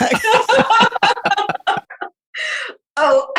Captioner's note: laughing